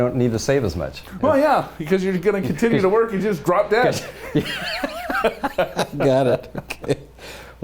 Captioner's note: laughter